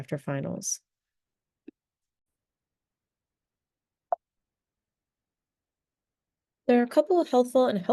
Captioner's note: long pause